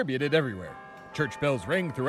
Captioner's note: church bells are heard